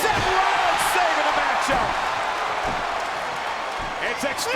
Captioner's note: audience cheers